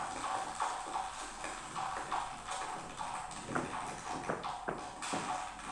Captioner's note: object tapping floor